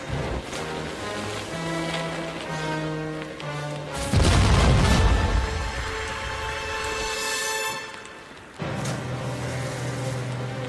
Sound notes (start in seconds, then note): 0.9 ocean spla shes; 4.1 canon blast; 9.3 fire crackling